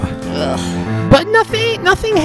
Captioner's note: groans